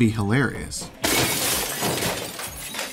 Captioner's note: crash